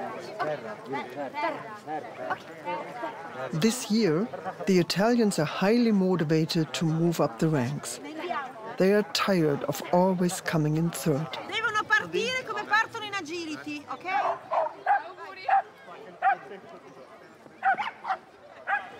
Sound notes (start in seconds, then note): 11.7 woman speaking Italian; 14.7 dogs barking